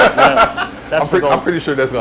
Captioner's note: laughing